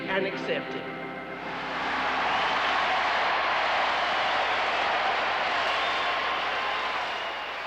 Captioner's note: loud applause